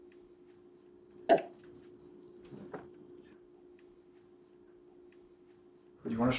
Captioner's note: slurping beverage